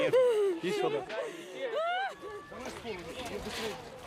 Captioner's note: woman cries; wails